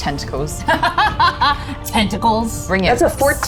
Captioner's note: laughs